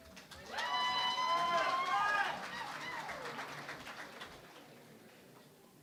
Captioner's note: cheering and Applause